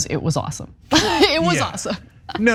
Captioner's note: laugh